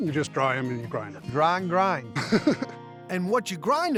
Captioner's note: laughs